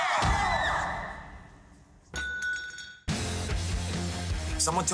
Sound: screams; bell rattles

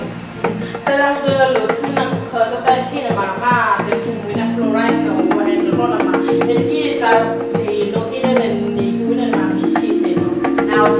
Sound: translating in Burmese

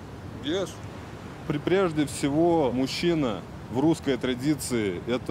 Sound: speaking in foreign language

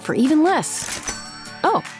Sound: cha-ching

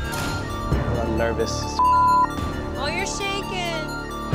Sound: beep

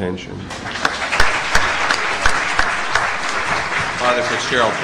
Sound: applause

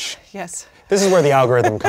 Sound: laughs

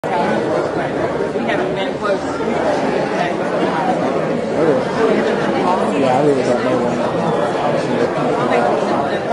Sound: crowd noise

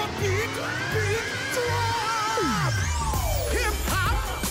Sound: scream

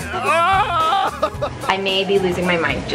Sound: laughing

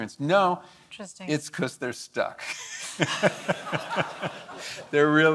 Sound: laughs

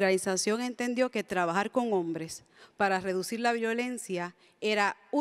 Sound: speaks in Spanish

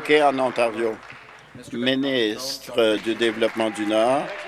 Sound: some Applause

